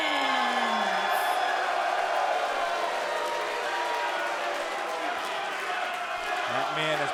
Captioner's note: crowd cheering